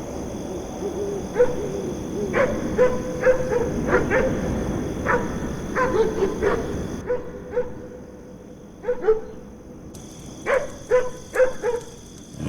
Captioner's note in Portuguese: Sons de latidos de cachorro